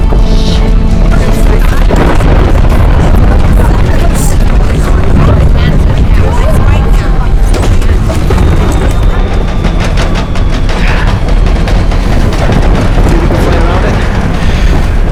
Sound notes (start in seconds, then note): 10.6 exhale